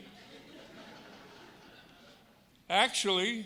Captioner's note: audience laughing